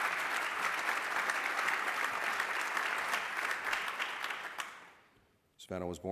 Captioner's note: applause